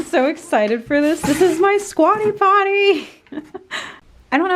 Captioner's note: laughing